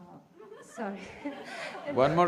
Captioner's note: laughter